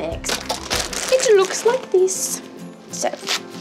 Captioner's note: bag crinkles